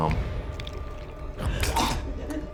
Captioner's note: choking; squelching